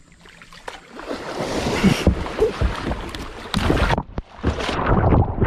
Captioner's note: water splashing